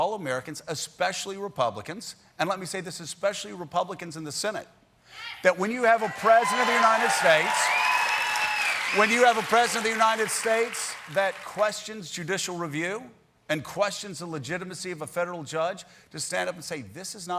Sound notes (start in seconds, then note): 5.8 cheers and applause